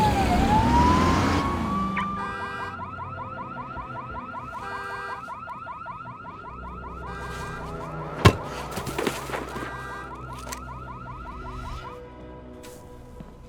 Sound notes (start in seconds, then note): 1.9 car alarm beeping